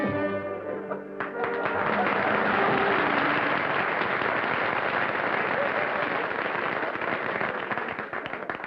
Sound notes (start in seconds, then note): 1.1 applause